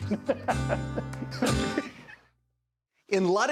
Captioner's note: both laugh cheerfully